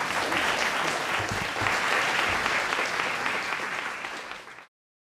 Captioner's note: applause